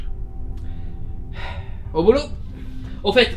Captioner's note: sigh